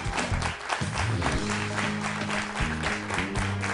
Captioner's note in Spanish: Aplausos